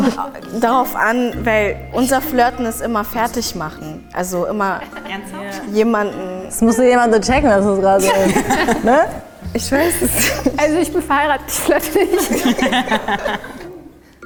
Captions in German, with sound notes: Es kommt darauf an, weil unser flirten ist immer so fertigmachen. Das muss jemand nur checken, dass das gerade ... (lachen) Also, ich bin verheiratet, ich flirte nicht. (lachen)